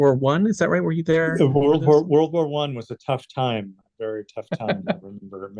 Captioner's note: chuckles